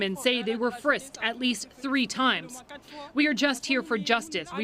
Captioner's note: speaking French